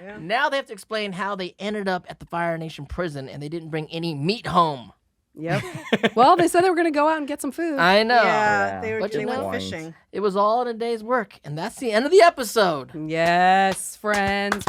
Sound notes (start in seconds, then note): 5.5 laughs